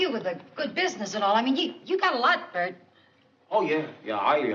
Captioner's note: none